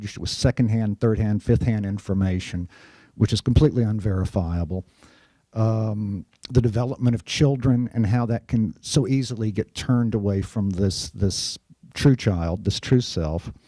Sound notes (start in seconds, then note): none